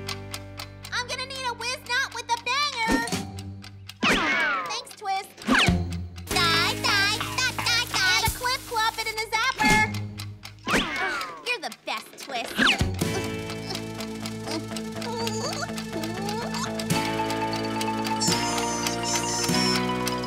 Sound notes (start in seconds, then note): 0.0 timer ticking; 12.5 grunting anxiously